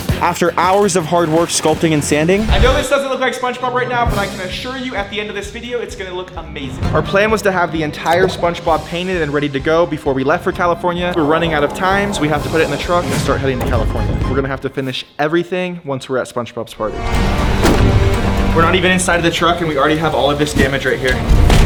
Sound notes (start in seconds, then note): 0.0 upbeat rock music; 11.3 wind howling; 16.8 intense dramatic music; 17.2 foam cracking; 21.4 intense dramatic music; 21.4 foam thuds